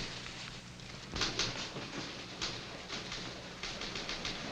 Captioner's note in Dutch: typewriters klepperen